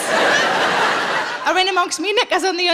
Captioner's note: audience laughing